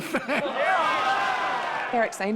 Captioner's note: crowd laughs